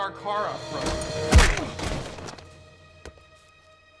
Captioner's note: skull cracking